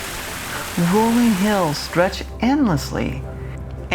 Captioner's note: water splashing